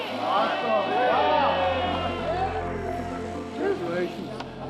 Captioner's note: investigators cheering